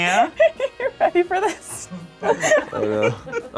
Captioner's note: laughs